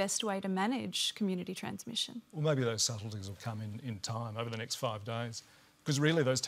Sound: none

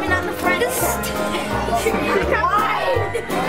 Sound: laughing

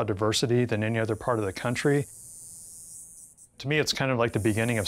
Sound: cicadas buzzing

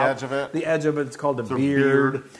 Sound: laugh

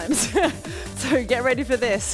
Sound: laughing

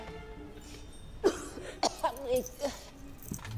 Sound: trelawney coughing

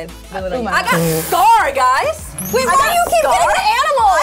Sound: Sofia laughs

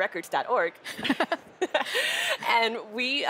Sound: laughing

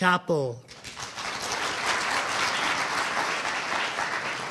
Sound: audience applauding

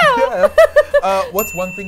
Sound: laughter; bell dings

